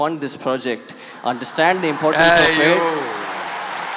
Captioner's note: laughter/Applause